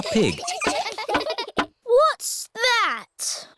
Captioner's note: all giggling